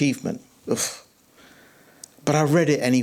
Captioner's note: scoffs